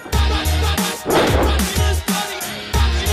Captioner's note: thumping